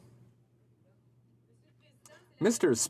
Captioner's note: speaking French